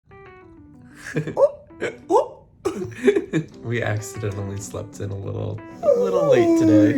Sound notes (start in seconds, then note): 1.0 giggles; 2.7 giggles